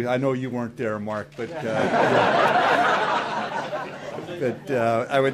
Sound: audience laughs

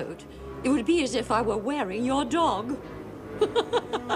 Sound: laughs; dramatic music

